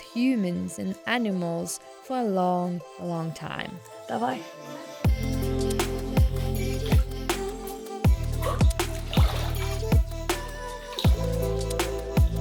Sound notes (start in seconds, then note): 6.4 relaxing music; 6.4 water rippling